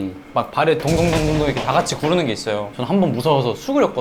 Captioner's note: stomp Stomp Stomp Stomp